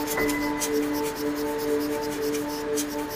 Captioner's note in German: Zischende Geräusche